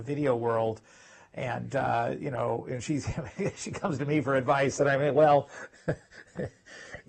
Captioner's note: laugh